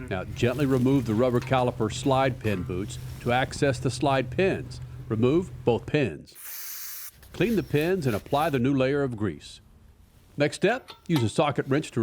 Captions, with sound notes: Now gently remove the rubber caliper slide pin boots to access the slide pins. Remove both pins. (aerosol can hissing) Clean the pins and apply the new layer of grease. Next step, use a socket wrench